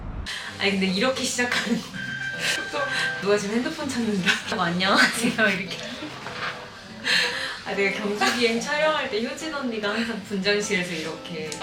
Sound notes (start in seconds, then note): 2.0 alarm rings; 4.2 laughs